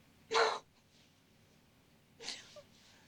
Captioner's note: gasping; crying